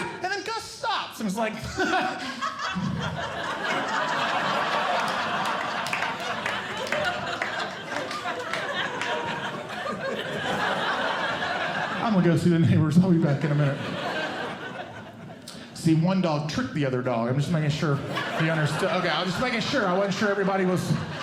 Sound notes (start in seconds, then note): 1.5 audience Laughing; 1.7 laughs; 14.0 audience Laughing